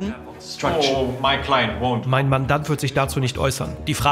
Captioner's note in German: englisch